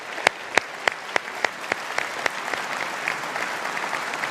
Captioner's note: audience applauding